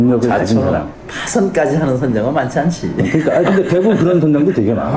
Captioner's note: laugh